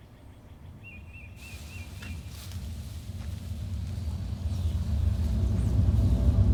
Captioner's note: deep sonic thrumming